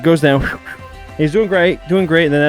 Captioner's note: sliding sounds